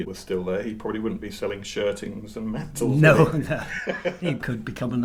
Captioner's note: laughs